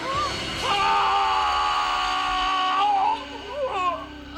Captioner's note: attacker screams